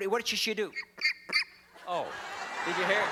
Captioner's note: chirp chirp chirp; laughter